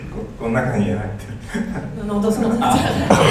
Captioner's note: laughs & points at laptop